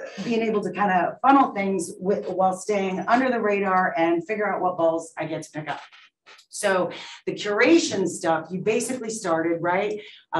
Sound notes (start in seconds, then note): none